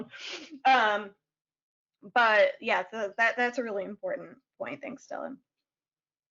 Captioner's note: laughs